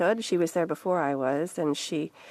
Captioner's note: speaking French